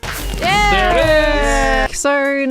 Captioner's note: group cheers; dragon exploding